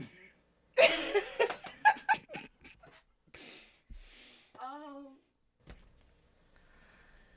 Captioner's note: laughing